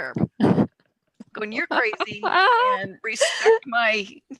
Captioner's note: laughs